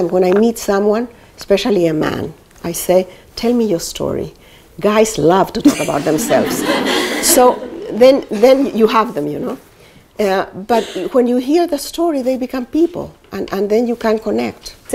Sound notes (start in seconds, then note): 5.7 laughter